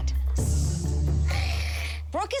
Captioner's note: moms hiss